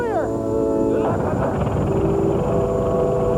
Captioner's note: engine starts